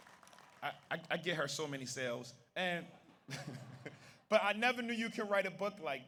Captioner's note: audience applauds; audience cheers; laughs